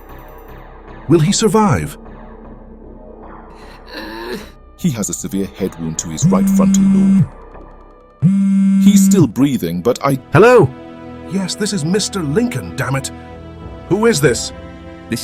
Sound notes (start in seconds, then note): 3.5 Jackson gasping; 9.9 suspenseful music